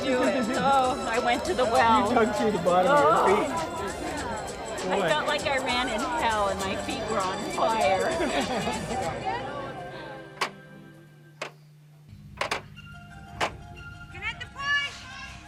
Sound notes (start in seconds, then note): 9.6 clock